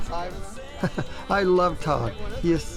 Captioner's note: laughing